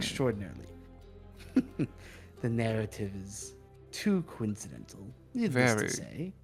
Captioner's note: chuckles